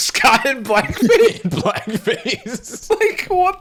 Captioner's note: laughing